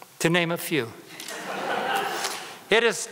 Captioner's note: audience laughter